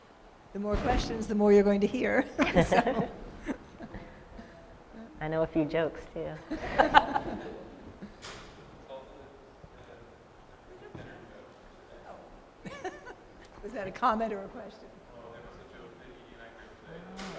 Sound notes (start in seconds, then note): 2.3 laughter; 6.4 laughter